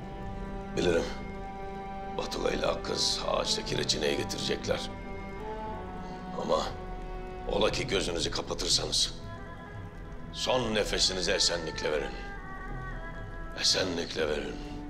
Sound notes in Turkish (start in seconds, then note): none